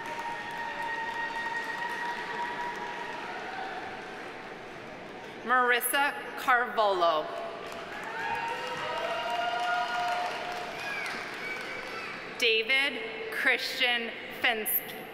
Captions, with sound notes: (audience applauding) (audience cheering) Marissa Carvalho. (audience applauding) (audience cheering) David Christian Fenske.